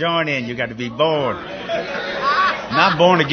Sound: laughter

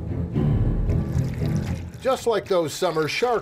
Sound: splashing

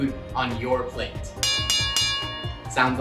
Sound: bell dings

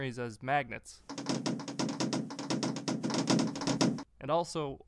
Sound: rhythmic banging

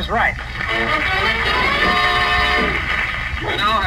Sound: audience Applauds

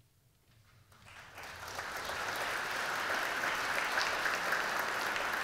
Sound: audience clapping

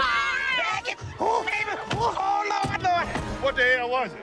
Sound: gasping

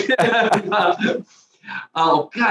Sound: both laugh

